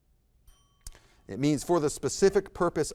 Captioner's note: bell ringing